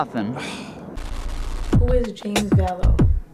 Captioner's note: static